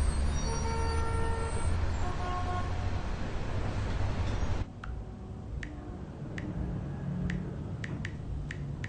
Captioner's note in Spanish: Sonidos de bocinas de autos